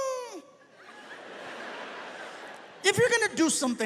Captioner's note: audience laughs